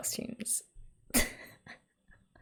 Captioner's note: laughs